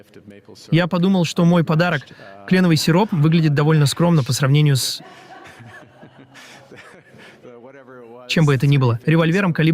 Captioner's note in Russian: смеётся